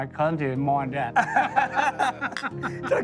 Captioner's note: laughter